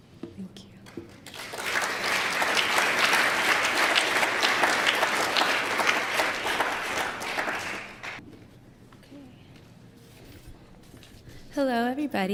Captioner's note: applause